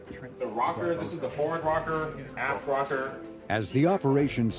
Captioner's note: radio call mumbling